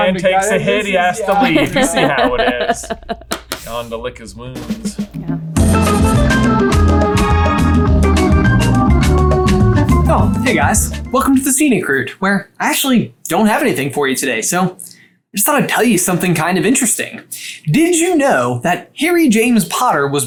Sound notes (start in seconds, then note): 1.3 laughing; 4.6 upbeat music